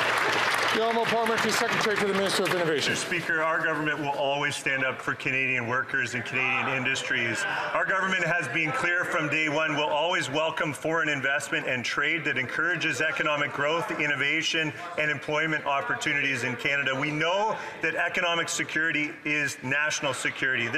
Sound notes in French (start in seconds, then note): 6.5 voix de l'interprète